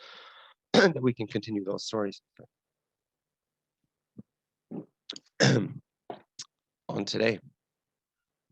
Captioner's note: cough